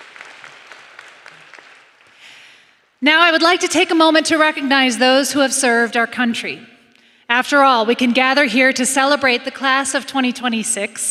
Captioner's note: applause